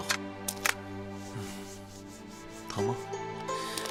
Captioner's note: Sound of Duan BaiYue wiping Chu Yuan's face